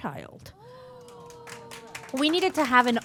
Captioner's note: applause